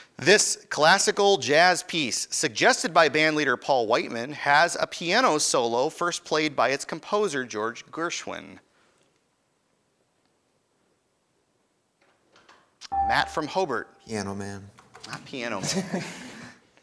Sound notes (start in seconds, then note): 12.9 ding